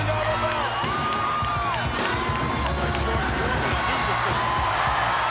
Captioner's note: crowd cheering